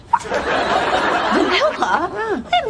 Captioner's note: laugh Track